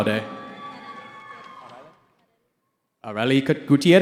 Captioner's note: cheering